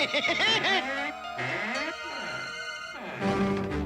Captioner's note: creaking